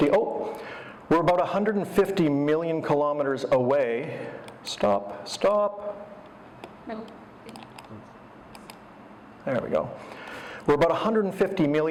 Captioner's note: computer mouse clicking